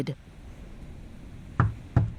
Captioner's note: door knock